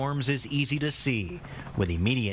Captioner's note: sound of chopper